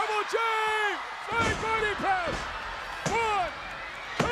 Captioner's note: bodies thud